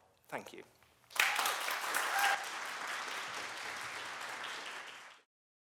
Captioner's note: applause